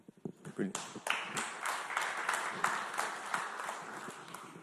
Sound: audience clapping

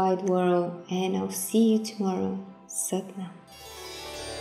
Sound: speaking in foreign language; gentle music

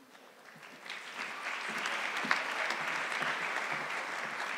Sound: audience clapping

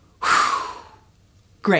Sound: blow

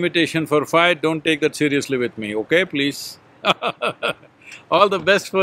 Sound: laughs

